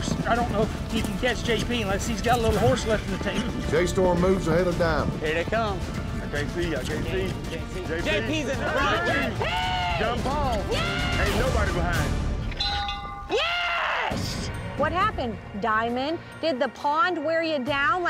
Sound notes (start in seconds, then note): 8.0 yelling encouragement; 12.4 bell clangs